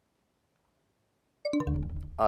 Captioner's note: bell chimes, time expires